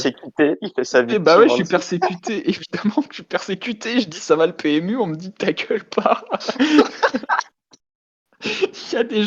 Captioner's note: sob